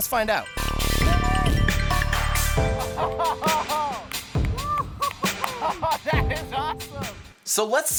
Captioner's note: cheering